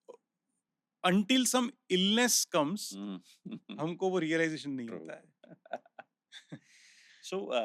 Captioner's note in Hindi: हंसी